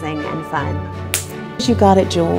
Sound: solid high five smack

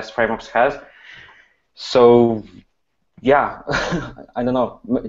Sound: laughs

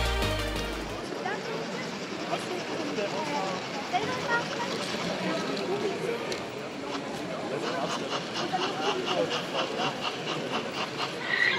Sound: locomotive sound

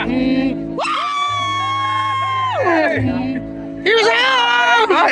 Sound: cheering

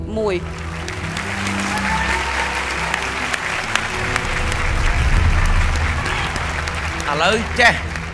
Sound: cheer and applause

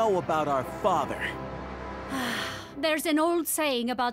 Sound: sighing

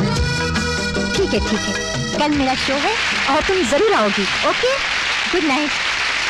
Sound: crowd Applauding

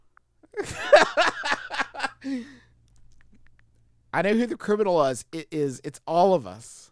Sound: laughs

